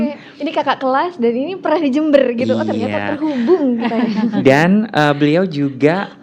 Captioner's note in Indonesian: laugh